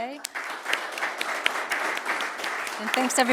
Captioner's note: audience applauding